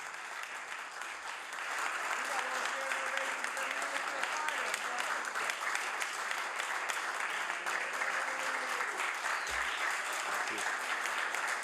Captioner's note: applause